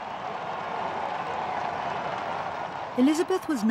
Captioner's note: crowd cheering